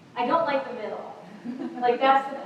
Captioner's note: laughter